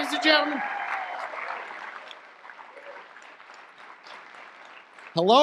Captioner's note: audience applause